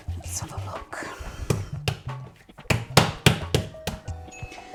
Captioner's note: slap slap slap